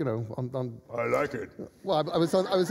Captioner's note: deep voice